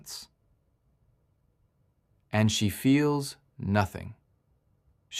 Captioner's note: pause